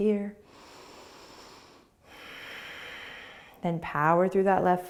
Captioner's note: inhaling and exhaling